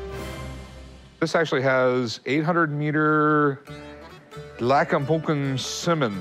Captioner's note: non-english speech